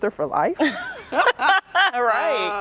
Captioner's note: laughter